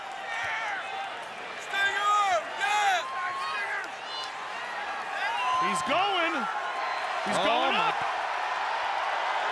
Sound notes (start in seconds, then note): 1.8 applause